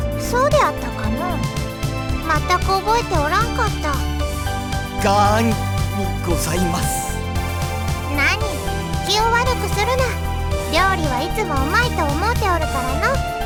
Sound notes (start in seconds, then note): none